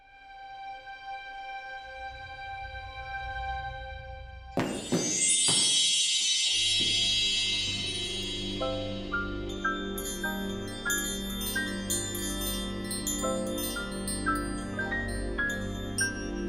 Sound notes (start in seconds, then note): 4.6 magical sparkling chime sound